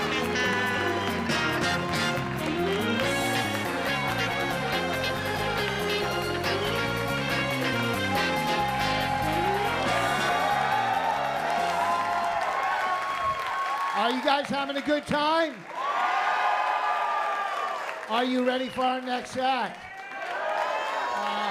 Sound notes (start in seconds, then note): 8.9 cheering